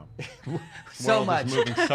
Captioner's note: laughing